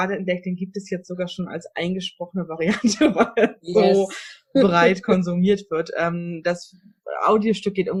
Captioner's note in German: lacht